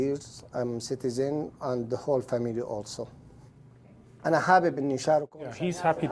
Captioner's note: speaking Arabic